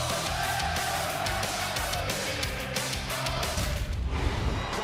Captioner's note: fans chanting